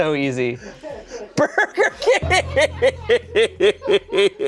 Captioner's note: laughs